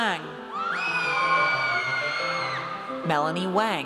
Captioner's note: audience cheers